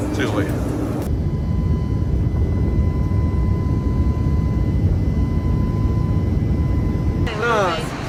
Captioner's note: airplane taking off